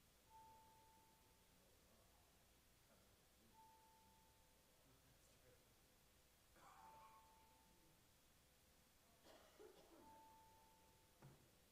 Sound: bells ringing

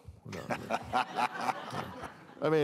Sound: laughter

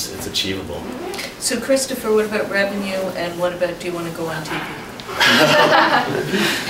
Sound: laughs

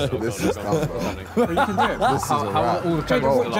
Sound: all laughing

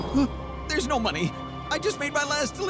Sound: none

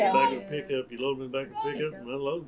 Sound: laughs

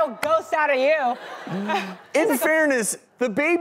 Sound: audience laughs

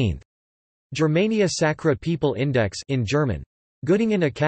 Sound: in German

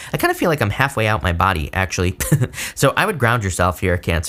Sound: laughs

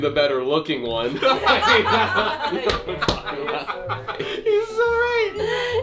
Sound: everyone laughs because Bethan is also so much funnier

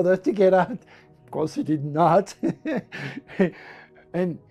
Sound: lacht

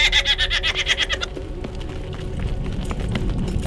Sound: mischievous Fairy Laughter

